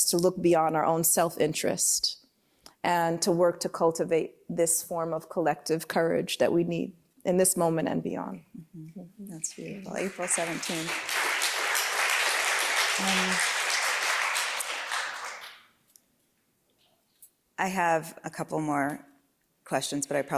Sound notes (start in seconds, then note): 9.9 applause